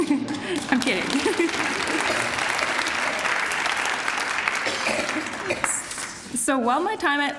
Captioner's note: applause